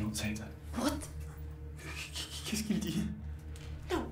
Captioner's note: speaks in French